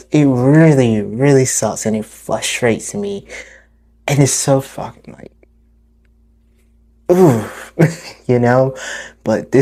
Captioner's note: deep exhale